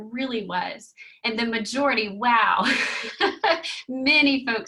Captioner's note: chuckling